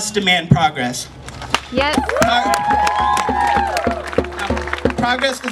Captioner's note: YES! Cheering